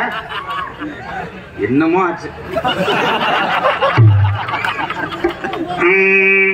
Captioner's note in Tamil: சிரிப்பு